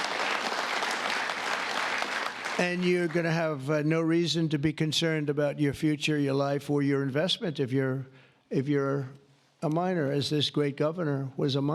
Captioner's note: applause